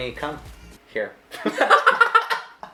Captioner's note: laughing